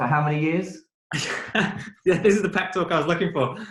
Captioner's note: laughs